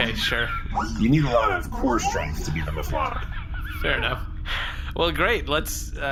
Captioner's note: laughing